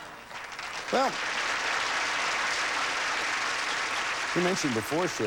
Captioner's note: audience applauding